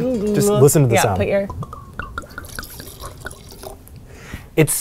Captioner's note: wine glugging